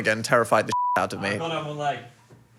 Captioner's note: beep